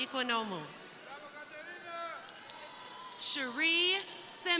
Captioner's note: crowd cheering